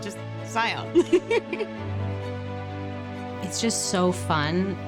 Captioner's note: laughs